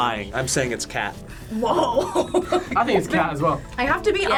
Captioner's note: laughs